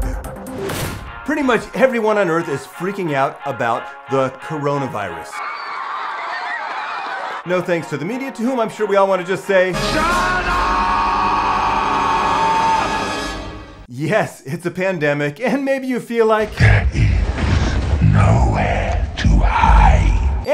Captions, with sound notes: - Ew. Pretty much everyone on Earth is freaking out about the coronavirus. (crowd screaming) No thanks to the media, to whom I'm sure we all wanna just say. - Shut up! - Yes, it's a pandemic, and maybe you feel like - There is nowhere to hide